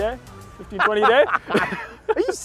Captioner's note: laughing